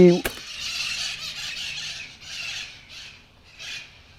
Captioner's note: birds chirping